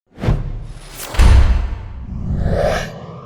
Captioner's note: air whooshing